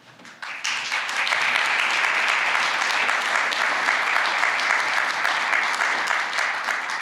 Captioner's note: applause